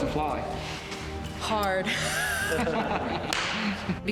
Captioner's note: laughs; crew member laughs